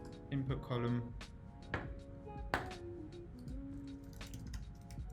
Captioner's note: typing on keyboard